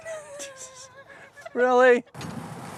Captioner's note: laughing